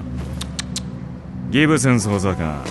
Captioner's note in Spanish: Dominic chasquea